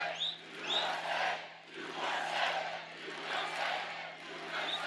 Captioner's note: cheering and Applause